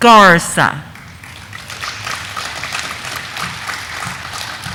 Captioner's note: audience applauding